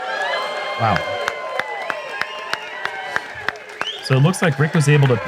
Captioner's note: applause